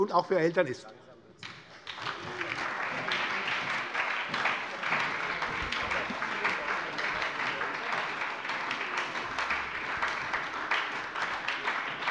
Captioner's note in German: Beifall bei der SPD